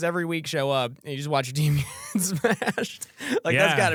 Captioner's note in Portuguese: risos